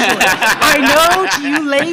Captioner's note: audience laughs